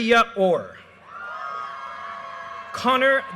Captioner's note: audience cheers and applause